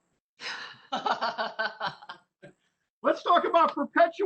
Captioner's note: laughing